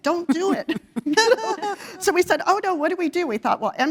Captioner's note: laugh